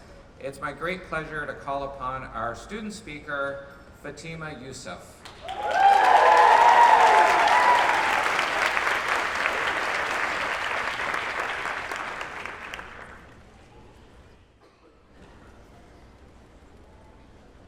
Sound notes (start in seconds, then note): 5.2 applause, cheers